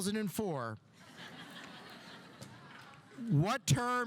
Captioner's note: audience laughing